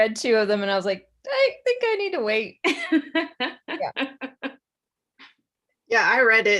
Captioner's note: laughs